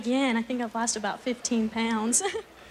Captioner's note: giggling